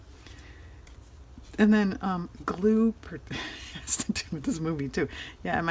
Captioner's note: laughs